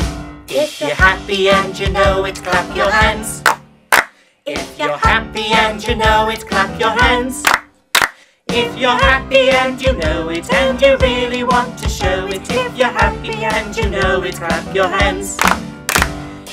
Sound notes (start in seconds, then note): 3.9 clap clap; 7.9 clap clap; 15.8 clap clap